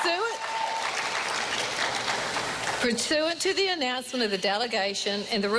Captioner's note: cheering and applause